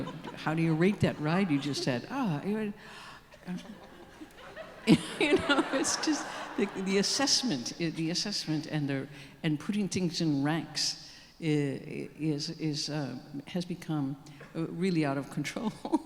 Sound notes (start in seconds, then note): 3.4 audience laughing